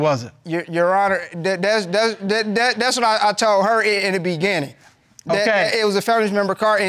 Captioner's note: stammering